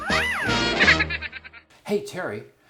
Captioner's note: crazy laugh!